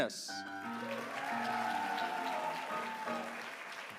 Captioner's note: applause